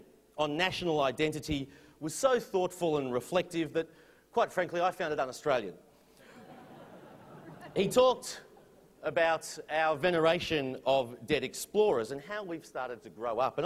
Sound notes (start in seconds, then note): 6.2 laughter